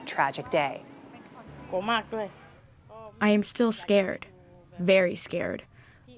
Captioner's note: through translator